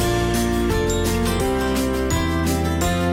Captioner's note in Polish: dzwonek